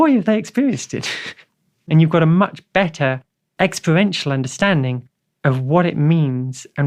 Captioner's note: laughs